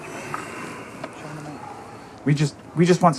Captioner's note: Rick sighs